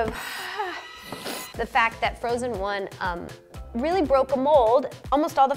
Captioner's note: moans; sniffs